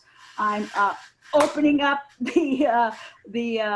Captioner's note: clapping